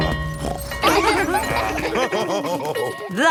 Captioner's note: school bell ringing; both laughing; daddy pig snorts; children laughing; daddy pig laughing